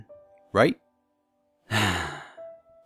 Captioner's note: sigh